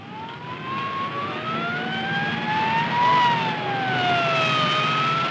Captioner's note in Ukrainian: сирени кричать